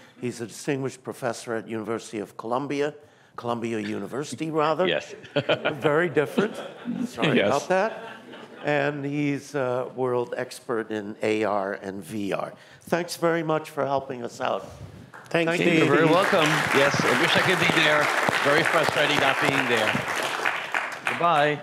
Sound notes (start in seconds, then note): 5.1 laughter; 15.5 applause